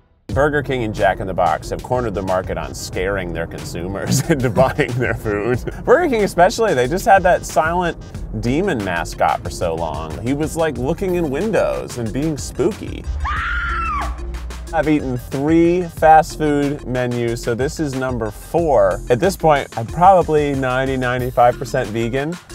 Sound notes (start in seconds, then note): 13.1 woman screams